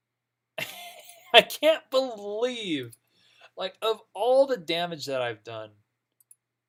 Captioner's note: laughing